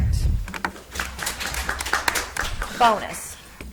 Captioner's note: audience applauds